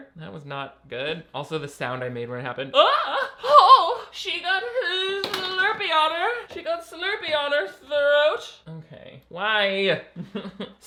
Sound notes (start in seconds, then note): 3.1 squeals